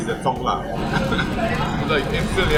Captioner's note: coughs